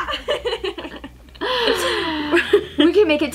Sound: both laugh

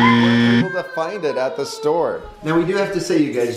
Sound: buzzer

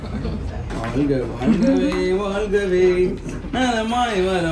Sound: humming a song

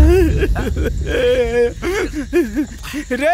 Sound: crying

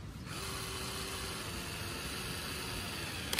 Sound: more struggling power drill noise

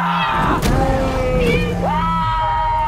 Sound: continued screaming; cat meowing; continued screaming

